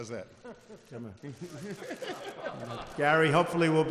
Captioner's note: laughter